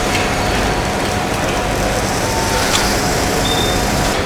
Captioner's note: screaming